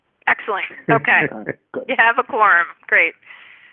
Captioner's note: trustee laughs